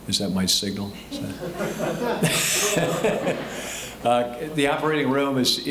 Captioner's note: all laughing